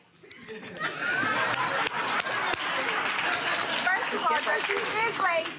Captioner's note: audience laughing